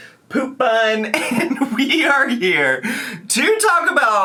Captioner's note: chuckles